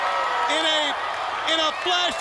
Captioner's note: crowd cheering